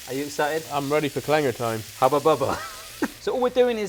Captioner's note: laughs